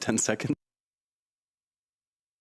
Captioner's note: speaking French